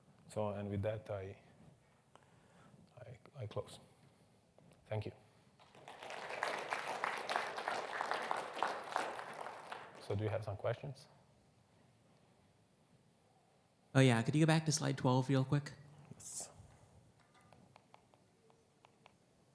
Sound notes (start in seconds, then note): 5.6 audience applauds